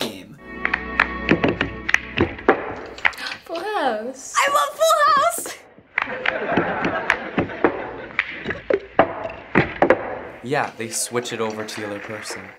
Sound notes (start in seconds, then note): 0.6 clapping and tapping cups musically; 4.5 excitedly; 6.0 studio audience laughs